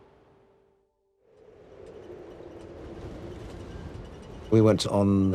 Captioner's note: wind blowing